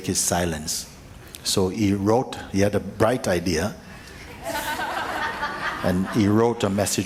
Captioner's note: laughter